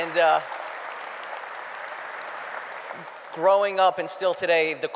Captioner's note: applause